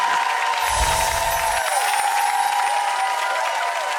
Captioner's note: applause